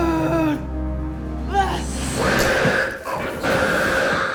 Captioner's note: Faye screaming; snake hissing